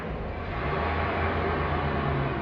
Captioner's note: car pulls away